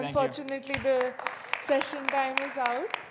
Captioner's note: audience clapping